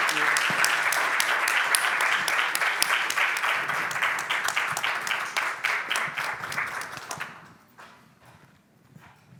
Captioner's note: applause